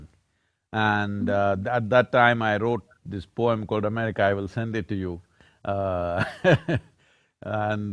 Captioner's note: laughs